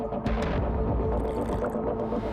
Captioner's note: slurps